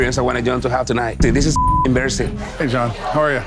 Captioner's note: beep